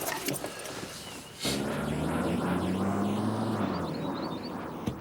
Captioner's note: car engine rumbling